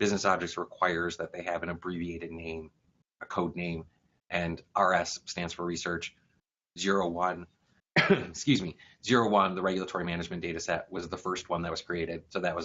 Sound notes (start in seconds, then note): 7.9 cough